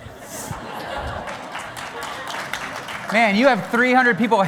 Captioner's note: applause